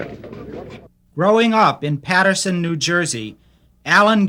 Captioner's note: voiceover